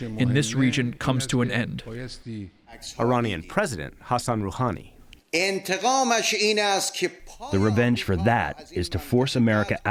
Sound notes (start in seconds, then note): 6.6 through translator